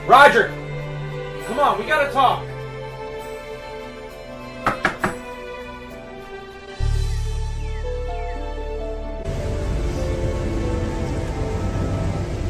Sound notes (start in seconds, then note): 4.6 knuckles tapping